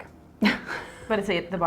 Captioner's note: giggling